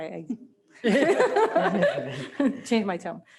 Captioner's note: laughter